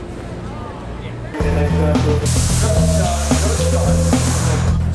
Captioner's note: city sounds